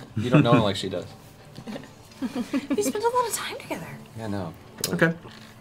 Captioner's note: chuckle